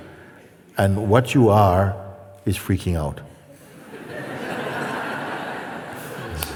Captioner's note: laughter